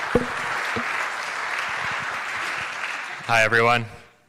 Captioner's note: crowd applauds